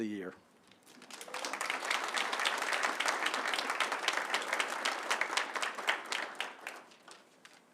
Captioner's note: applause